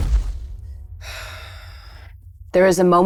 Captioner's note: exhales